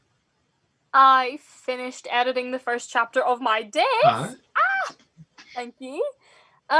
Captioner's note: squeals